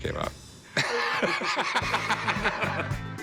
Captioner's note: laughing